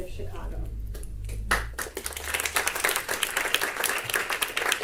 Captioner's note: audience applause